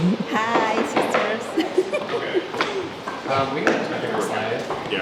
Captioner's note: laughs